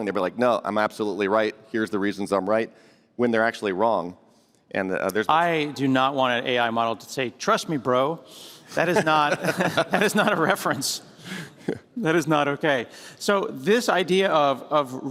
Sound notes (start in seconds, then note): 8.7 laughter